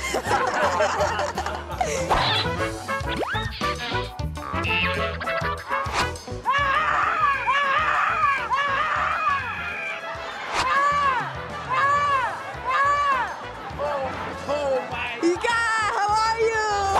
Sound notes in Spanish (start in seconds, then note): 0.0 Ríe; 6.5 Grita